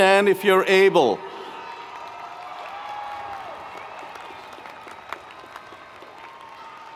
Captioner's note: audience cheering and applauding